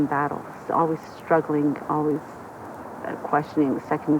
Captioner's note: none